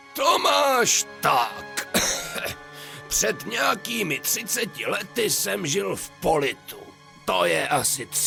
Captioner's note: cough